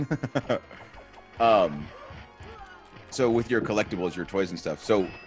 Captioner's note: laugh